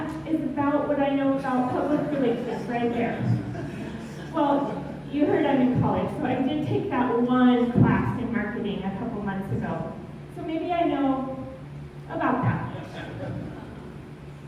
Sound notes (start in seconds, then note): 3.3 laughter; 12.7 laughter